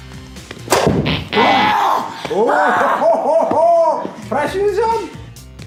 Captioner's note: screaming